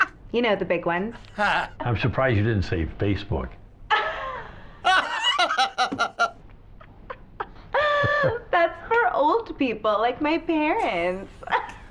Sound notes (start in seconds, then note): 4.8 laughs